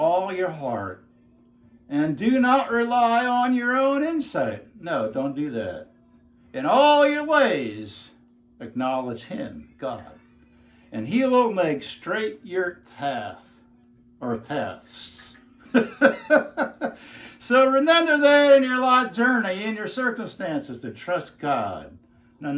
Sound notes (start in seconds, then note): 15.6 laughs happily